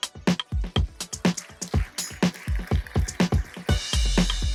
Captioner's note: applause